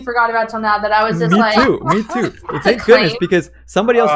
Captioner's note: laughs